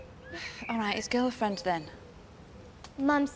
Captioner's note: sighing